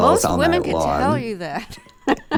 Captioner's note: laughter